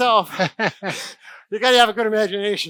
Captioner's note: laughs